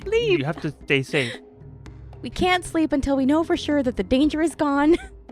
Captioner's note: none